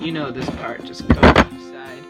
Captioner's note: loud glass shifting